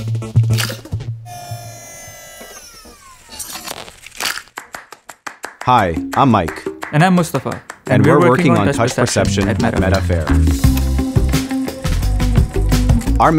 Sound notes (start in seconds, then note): 0.5 egg shell cracks; 1.2 machine whirring; 3.7 egg shell clatters; 10.3 upbeat music